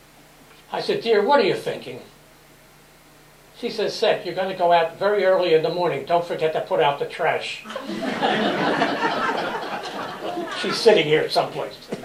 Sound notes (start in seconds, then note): 7.6 laughter